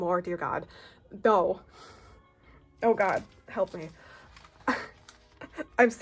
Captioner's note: laughs